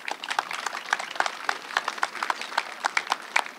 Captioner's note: applause